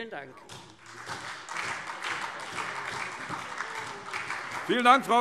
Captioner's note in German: Beifall SPD und Freie Demokraten